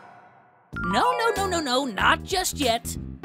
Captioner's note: none